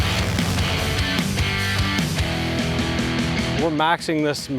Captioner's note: airboat motor stops